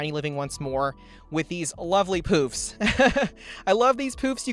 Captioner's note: laughs